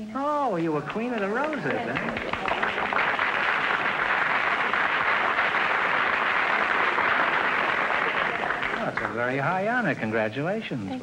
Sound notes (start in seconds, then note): 0.6 audience applause